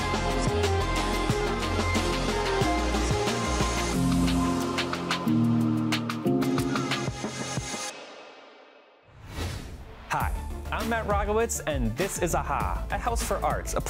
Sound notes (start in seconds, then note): 0.0 upbeat music continues; 9.1 video whooshes to next view